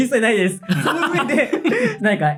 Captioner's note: laugh